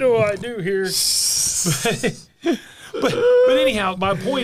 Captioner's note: laughter